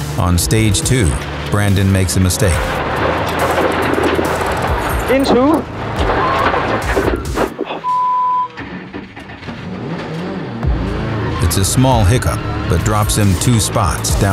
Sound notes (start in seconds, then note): 4.4 car engine dying; 7.8 beeping